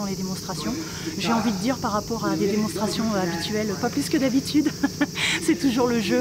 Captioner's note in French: rires